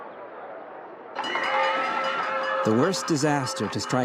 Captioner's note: bell dinging